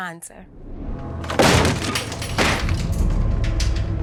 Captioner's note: slams; tense music